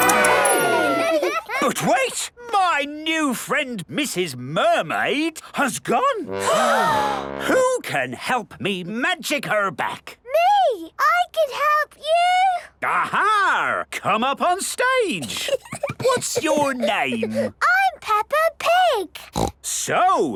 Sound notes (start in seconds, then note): 6.3 all gasp; 15.2 Peppa giggles; 19.2 snorts